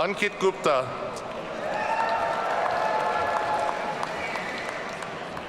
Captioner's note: audience cheering